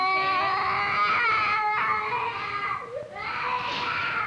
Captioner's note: screaming